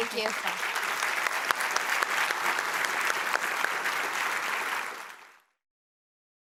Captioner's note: audience applause